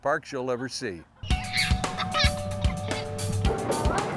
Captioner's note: girl laughing